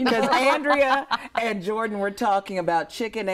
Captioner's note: laughs